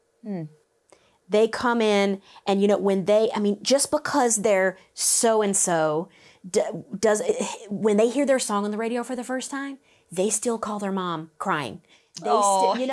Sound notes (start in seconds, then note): none